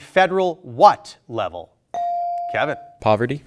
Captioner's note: buzzer dings